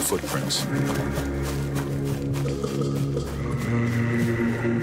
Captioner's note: grass rustling